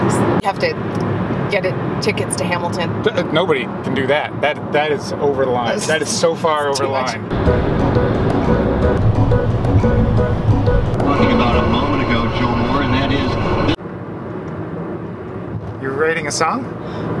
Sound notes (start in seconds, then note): 7.3 laughing; 10.8 radio static